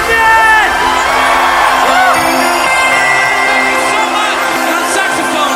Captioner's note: crowd cheers